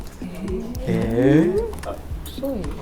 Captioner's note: confused Japanese sounds